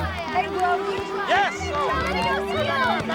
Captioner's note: all shouting